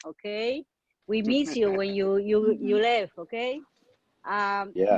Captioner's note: laughing